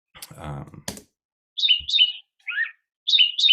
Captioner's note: bird noises